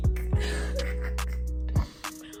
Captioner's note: laughs